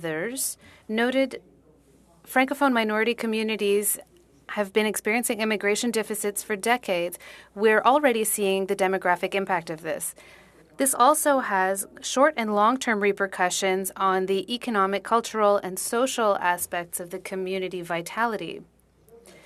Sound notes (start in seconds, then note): 4.9 speaking French